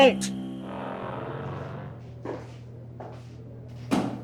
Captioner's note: growling